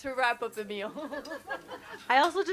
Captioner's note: everyone chuckles